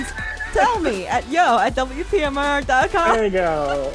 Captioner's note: laughs